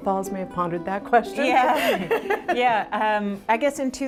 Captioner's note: laughs